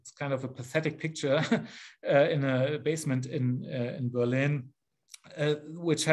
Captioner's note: chuckles